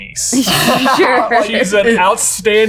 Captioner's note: laughing